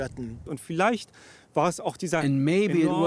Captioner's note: speaking German